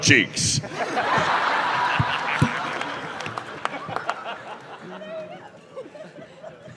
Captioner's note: laughter, applause